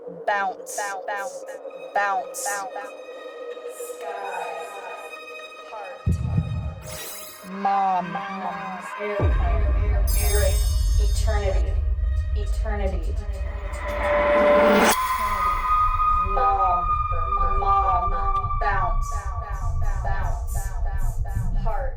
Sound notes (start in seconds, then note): 1.0 echoes; 2.9 echoes; 6.7 electronic trill; 8.9 echoes; 9.8 musical trill; 12.0 echoes; 14.2 ominous musical score; 16.3 echoes